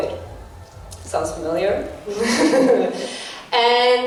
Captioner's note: bitter laugh